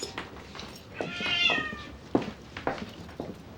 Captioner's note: cat meows